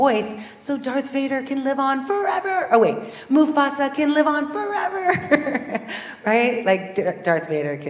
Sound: laugh

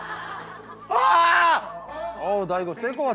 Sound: screaming

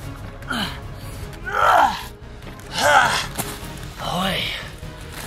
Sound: grunts

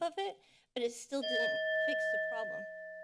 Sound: bell dings

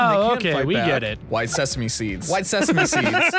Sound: laughs

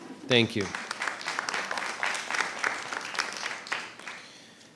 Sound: applause

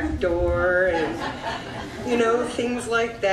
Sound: audience laughs

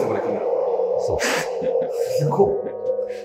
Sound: laughing

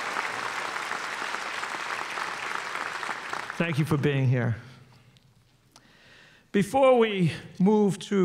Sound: applause

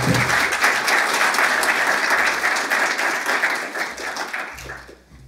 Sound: applause

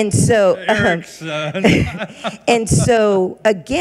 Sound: laughs

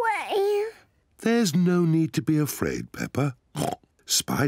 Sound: oinks

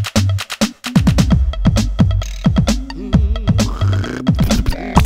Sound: tractor sputtering

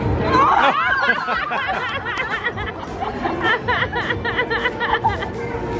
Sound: laughing

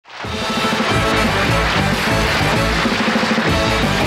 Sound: crowd applauding; trumpets blaring

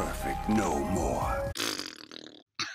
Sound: mysterious music; PBBBBb; cAugh

